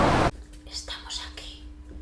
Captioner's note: whispers